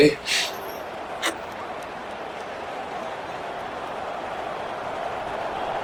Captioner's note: crowd cheering